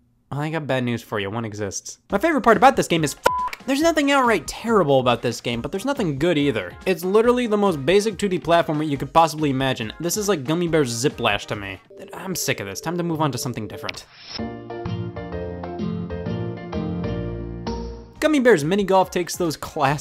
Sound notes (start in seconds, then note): 3.2 beep